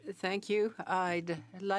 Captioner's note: speaking French